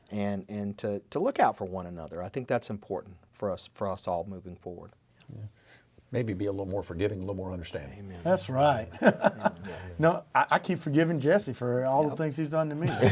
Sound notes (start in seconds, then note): 8.9 laughs